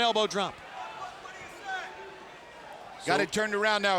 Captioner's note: fans cheering